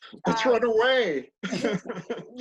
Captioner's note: laughter